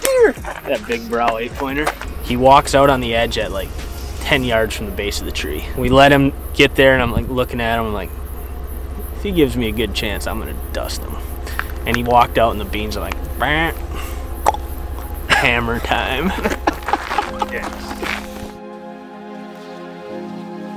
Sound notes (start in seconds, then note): 14.4 clicks tongue; 16.8 laughs